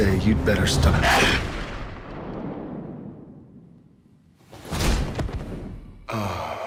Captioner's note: gun fires; sneezes